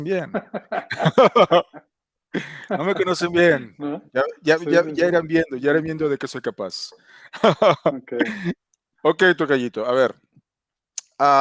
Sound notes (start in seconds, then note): 2.3 laughs